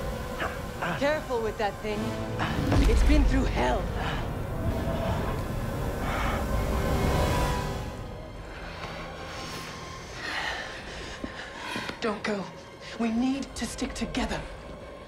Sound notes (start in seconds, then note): 3.9 labored breathing; 8.1 anxious breathing